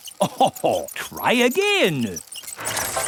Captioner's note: chuckles